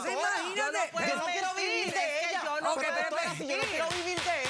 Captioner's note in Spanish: comentarios al unísono